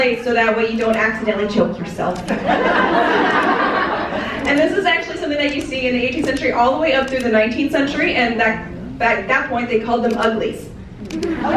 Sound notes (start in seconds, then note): 2.3 audience laughing